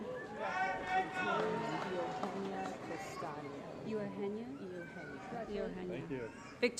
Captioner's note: applause & Cheering